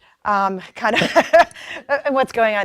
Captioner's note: laughs